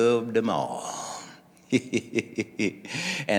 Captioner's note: laughing